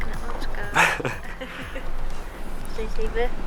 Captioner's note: laughs